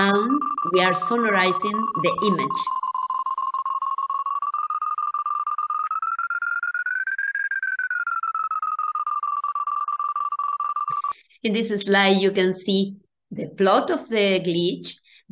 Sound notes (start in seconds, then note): 0.0 sonification plays; 2.9 sonification continues